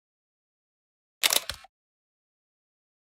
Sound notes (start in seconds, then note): 1.2 sound of camera shutter